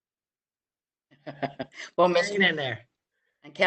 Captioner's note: laughs